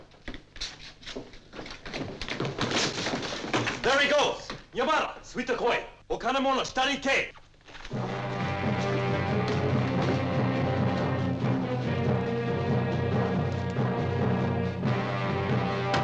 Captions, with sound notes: - There he goes. (speaking in foreign language) (dramatic music)